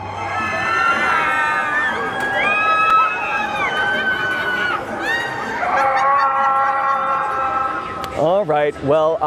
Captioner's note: screams